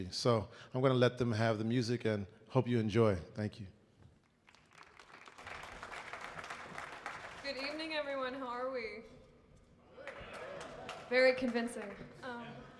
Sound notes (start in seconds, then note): 4.1 audience clapping; 10.0 faint crowd cheering